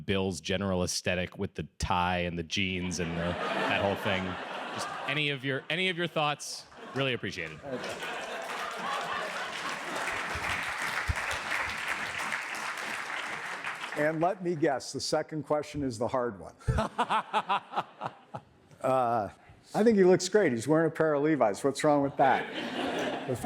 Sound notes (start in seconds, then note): 4.5 audience laughs and cheers; 7.4 audience applauses; 16.6 laughs